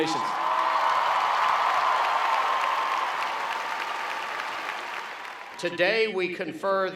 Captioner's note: cheering and Clapping